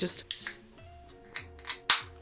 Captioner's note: air hisses; can pops open